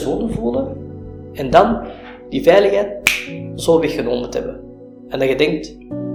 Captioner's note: snap of fingers